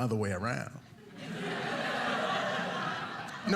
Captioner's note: audience laughing